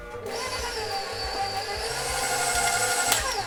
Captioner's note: mixer whirring